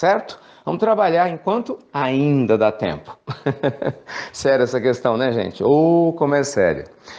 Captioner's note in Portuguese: risos